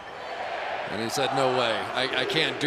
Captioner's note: crowd chanting